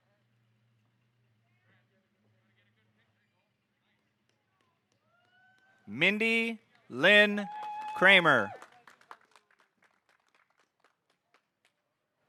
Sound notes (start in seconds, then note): 6.9 audience hooting; 8.8 audience applauding